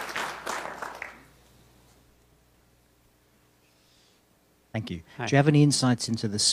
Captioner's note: applause